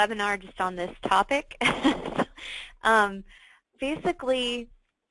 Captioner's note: chuckling